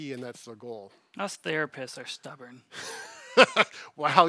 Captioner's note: laughing